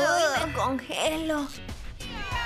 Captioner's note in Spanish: susurrando